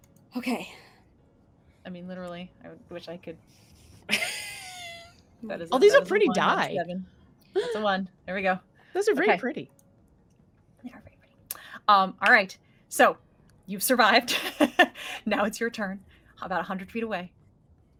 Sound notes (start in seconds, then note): 4.1 chuckles; 14.4 chuckles